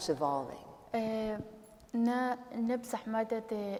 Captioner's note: speaking kurdish